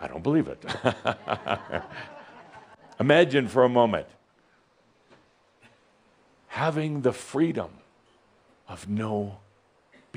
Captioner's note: Adamus chuckles